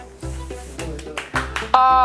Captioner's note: applause